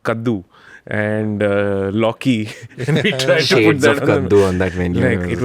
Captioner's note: laughs